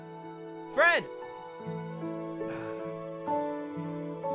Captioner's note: sigh